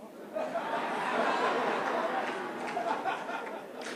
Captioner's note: laughter